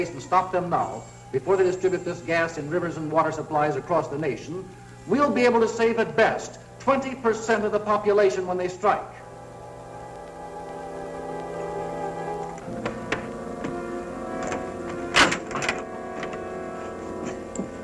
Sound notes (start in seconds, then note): 9.2 suspenseful music; 14.4 rattling